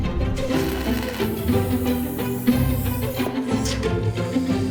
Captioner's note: welder buzzing